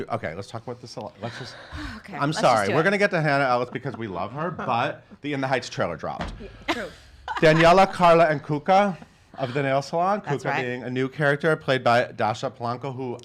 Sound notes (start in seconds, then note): 1.2 sighs; 6.2 banging on table; 7.2 laughs